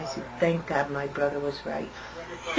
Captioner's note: laughter